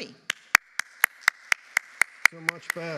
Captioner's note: audience applauding